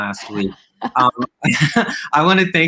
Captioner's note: both laughing